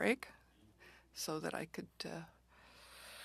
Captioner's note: speaking French